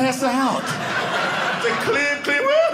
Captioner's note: audience laughing